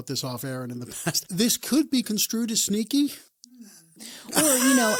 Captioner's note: laughs